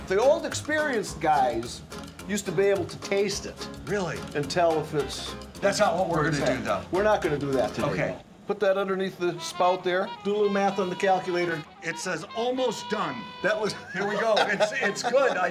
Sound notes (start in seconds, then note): 13.6 laughing